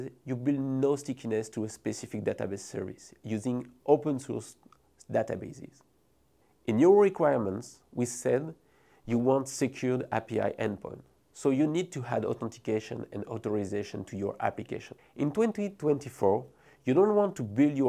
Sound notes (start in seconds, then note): 9.1 text whooshing